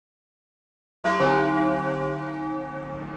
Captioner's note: another Bell Chime